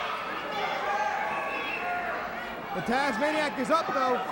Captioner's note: crowd chatter